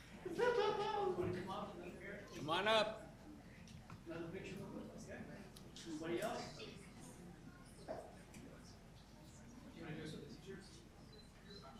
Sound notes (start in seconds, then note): 8.4 group chatter